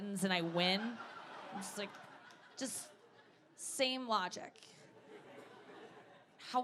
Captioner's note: audience laughing